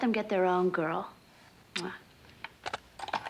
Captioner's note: kisses